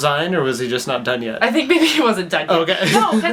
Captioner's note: laughs